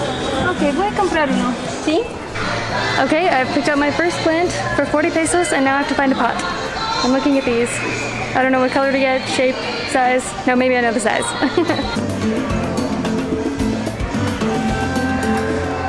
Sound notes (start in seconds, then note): 11.1 laughing; 12.9 Latin music